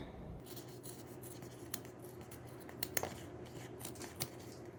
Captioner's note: scissors snipping